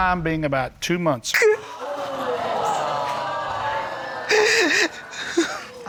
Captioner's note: sobbing; audience exclaiming